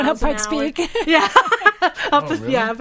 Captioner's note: laughs